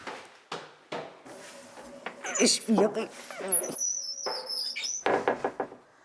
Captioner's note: the trapdoor squeaks